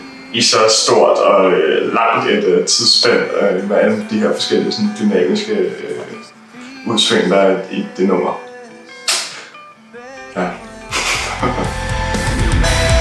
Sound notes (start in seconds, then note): 10.9 awkward laughter